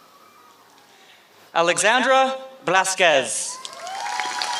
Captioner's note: applause